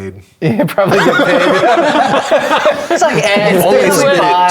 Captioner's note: players laughing